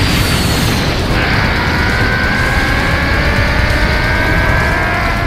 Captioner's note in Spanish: Gritos